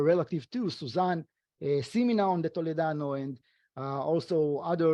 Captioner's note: speaking foreign language